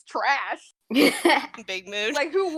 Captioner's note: laughs